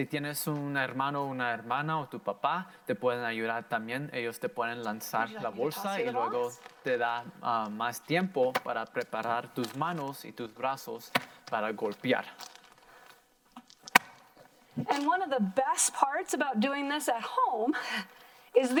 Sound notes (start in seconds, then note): 0.2 in foreign language; 8.6 in foreign language; 13.5 plastic popping